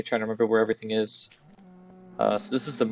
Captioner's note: cow moos